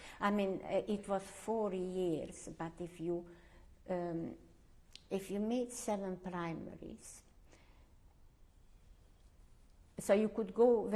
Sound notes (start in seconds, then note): 7.3 pauses for 3 seconds